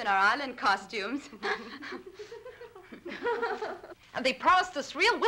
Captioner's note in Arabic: يضحك